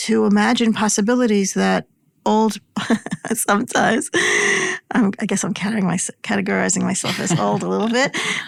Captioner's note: laugh